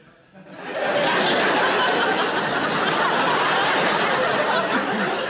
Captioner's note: audience laughing